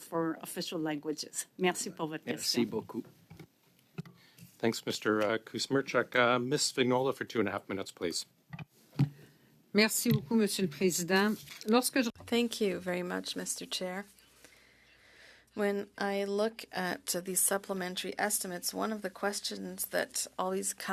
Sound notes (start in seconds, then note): 6.5 speaking French